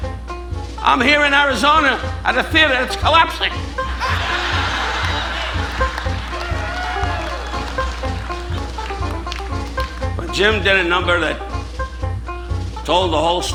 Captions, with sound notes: I'm here in Arizona at a theater; it's collapsing. (audience laughing) (audience applauding) But Jim did a number that told the whole story